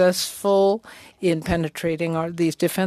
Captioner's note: speaking french